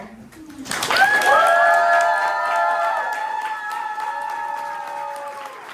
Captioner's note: audience cheering and applauding